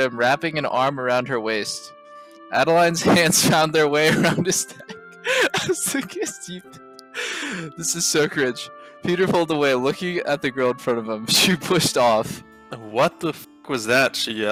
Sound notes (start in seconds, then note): 5.2 laughing